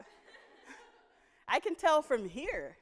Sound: audience laughing

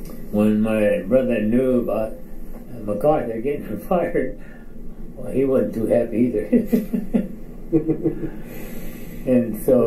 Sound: chuckles

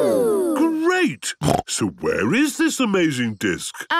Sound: snorting

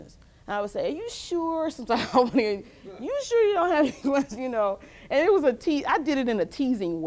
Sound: laughs

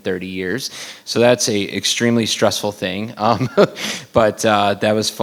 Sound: laughs

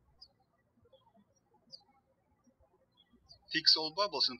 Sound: birds chirping

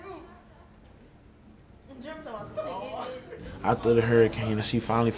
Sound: faint talking and laughing

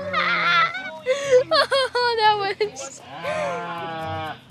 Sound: laughs

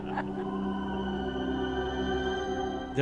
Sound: laughing

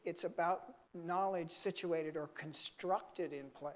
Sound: none

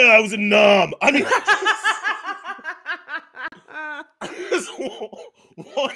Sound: laughs

